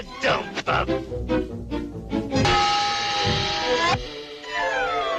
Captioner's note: tool banging; professor thudding